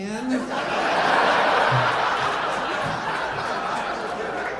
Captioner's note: audience laughing